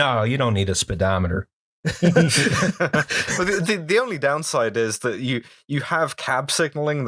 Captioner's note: laughter